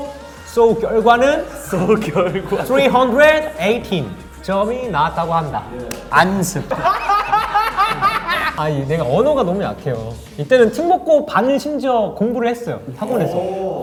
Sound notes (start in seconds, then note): 6.5 laughing